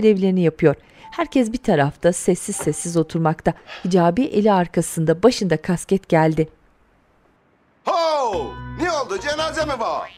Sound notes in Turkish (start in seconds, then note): 0.0 Müzik - Piyano; 2.5 Kapı sesi